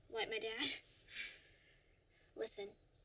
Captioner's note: laughs